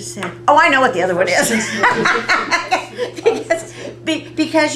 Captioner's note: laughter